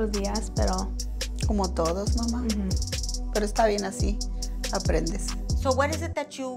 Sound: speaks in foreign language; Eileen's grandma speaks in foreign language

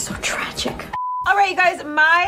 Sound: blooper beeps

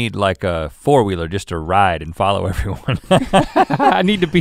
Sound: laughs

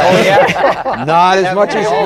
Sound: laughter

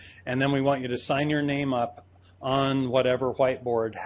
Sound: none

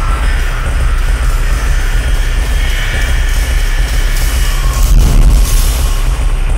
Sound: footsteps grow loud

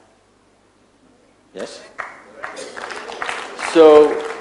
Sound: few applaud

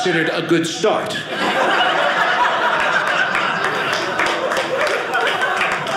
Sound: audience laughing; audience clapping

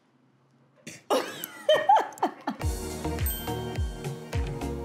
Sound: laughing; ringing; upbeat music

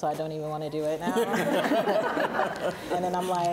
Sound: both laughing

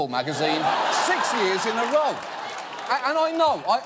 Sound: audience laughing

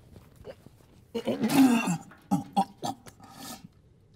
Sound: retching

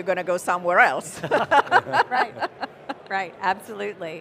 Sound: all chuckle

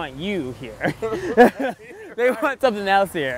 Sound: both laugh

